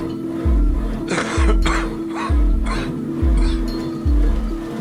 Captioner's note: coughing